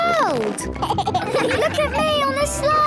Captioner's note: giggles